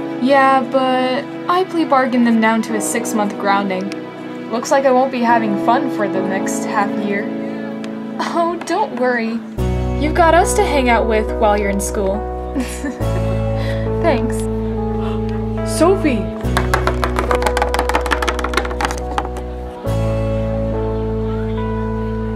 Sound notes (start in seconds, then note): 12.6 laughs; 15.2 gasps